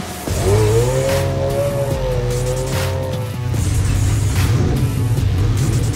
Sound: car engine revving; upbeat music

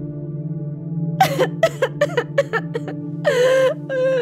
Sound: sobbing

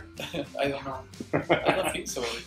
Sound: laughter

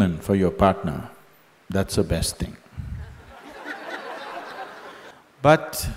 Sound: laughter

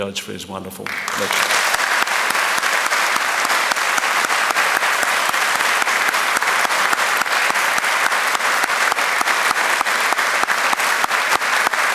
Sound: applause

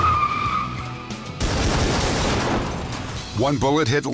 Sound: gunshots

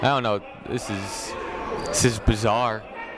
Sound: shouting

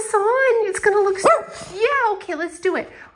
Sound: woof

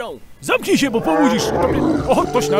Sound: roar

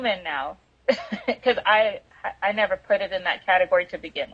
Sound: laughs

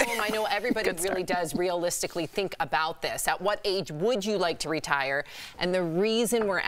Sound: laughter

